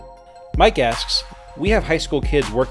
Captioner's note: voiceover